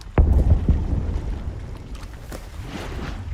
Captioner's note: muffled explosion